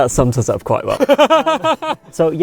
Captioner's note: both laugh